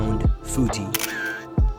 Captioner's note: camera Click